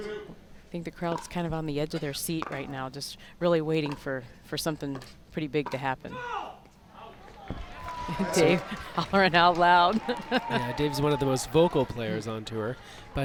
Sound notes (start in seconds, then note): 6.7 shouts; 10.6 laughs